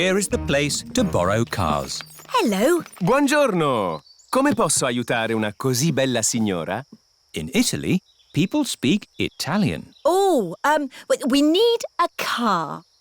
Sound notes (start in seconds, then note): 4.4 speaks italian